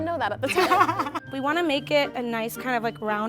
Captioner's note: laughs